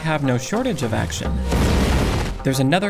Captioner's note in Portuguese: explosão